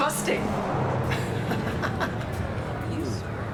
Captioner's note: bryant laughs